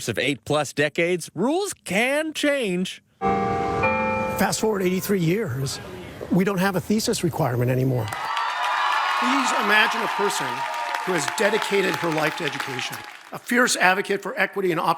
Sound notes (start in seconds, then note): 3.3 bells ring; 8.0 crowd cheers